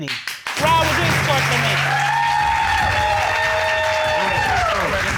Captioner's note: audience applauding